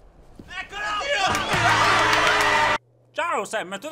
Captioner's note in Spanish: aplausos y vítores